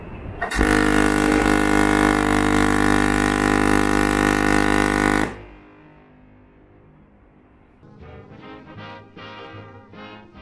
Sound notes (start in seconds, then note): 0.5 horn blast